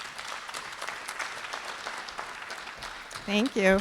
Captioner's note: applause